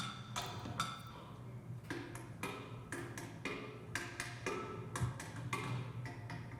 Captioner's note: rhythmic banging